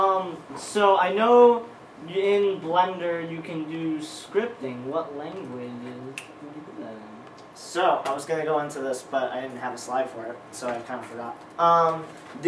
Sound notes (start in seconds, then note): 6.1 snapping